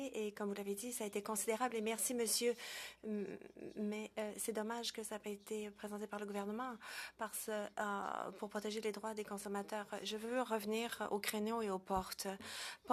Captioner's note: speaking French